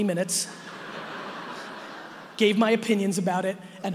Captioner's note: audience laughing